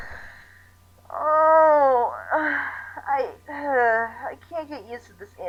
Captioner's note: sighs